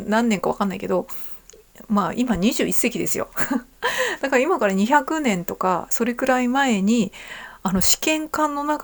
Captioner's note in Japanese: 笑い